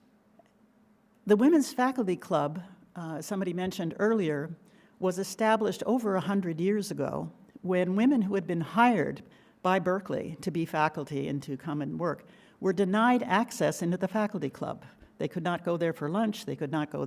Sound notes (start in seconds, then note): none